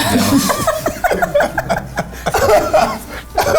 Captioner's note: laughing